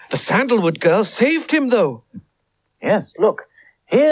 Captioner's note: none